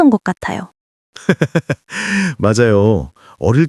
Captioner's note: laughs